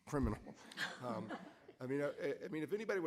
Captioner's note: audience laughing